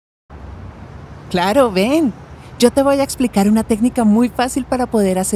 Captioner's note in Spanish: Voz de mujer